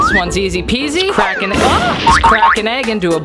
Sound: shrieks

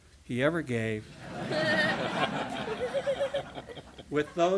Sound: laughter

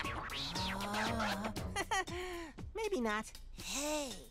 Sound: chuckling

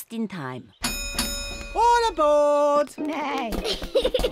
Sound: dings bell

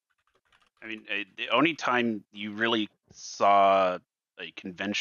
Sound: keyboard tapping

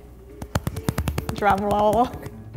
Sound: hands pounding

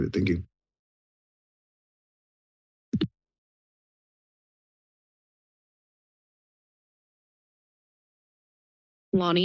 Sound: silence

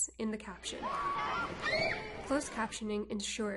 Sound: crowd making noise

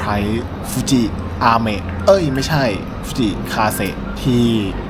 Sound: rain

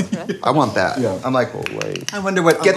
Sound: clapping

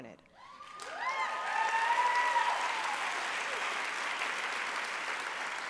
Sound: applause

